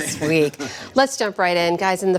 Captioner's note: laughter